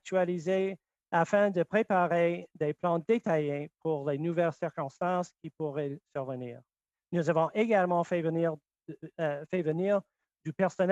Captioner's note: speaking French